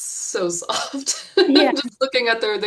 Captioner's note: chuckles